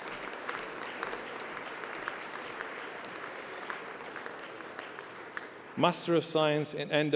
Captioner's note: applause